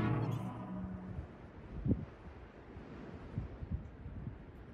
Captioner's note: wind blowing